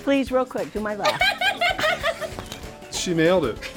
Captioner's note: laughter